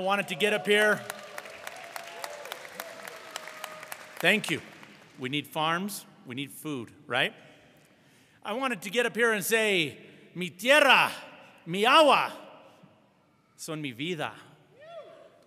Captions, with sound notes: and I wanted to get up here. (audience cheering and applauding) Thank you. We need farms. We need food, right? I wanted to get up here and say (speaking a foreign language)